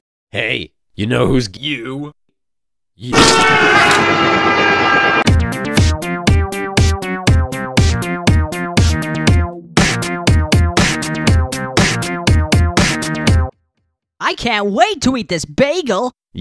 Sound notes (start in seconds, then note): 3.3 screaming; 16.2 silence